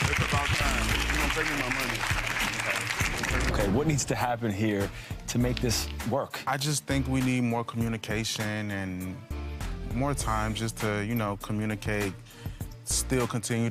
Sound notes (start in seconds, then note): 0.0 audience applauds